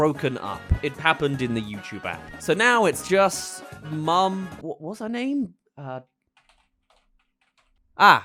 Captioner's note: typing